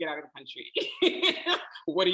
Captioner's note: laughing